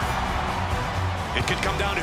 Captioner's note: cheers & applause